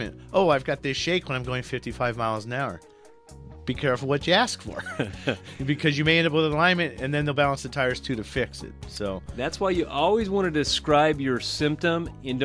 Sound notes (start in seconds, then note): 4.7 both laugh